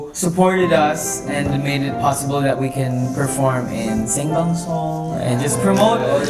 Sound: Korean

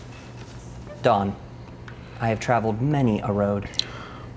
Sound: voiceover

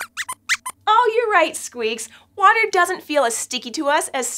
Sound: squeaks squeaks

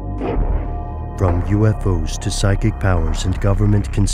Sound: voiceover

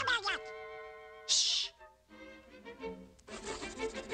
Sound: shushing

